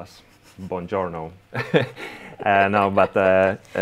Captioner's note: both laughing